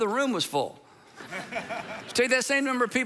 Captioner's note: congregation laughing